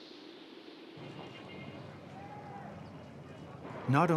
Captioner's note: traffic humming, horns beeping